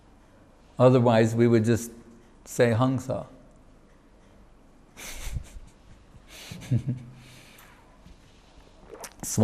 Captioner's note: chuckles